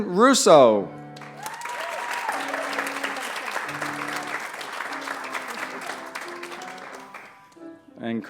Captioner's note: applause